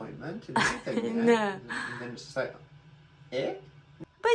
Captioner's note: laughs